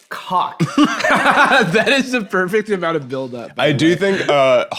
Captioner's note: laughs